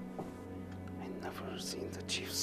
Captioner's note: whispers